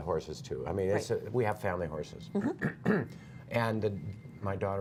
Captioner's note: laughter